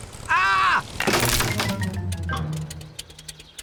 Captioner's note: crunching